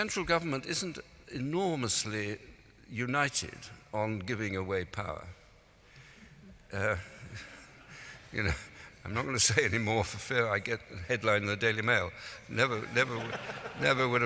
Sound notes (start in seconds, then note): 5.7 laughing